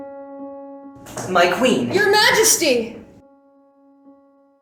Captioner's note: Homo's yelling